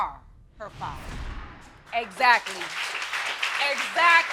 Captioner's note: audience clapping